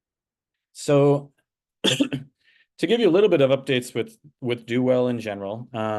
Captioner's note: coughing